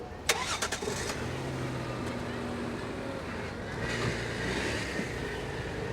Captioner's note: starts engine